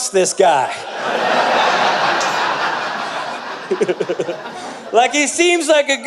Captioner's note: audience Laughter